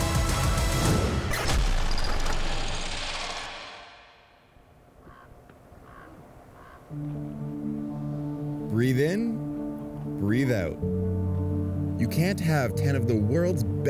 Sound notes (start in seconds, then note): 5.7 crow cawing; 6.8 calm music